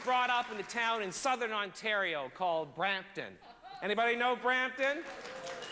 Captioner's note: sparse applause